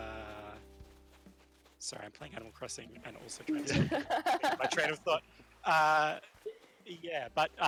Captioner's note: laughter